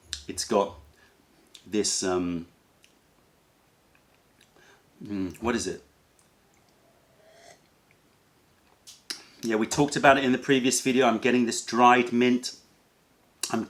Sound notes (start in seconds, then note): 7.1 sips tea